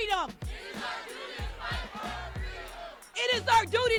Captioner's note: crowd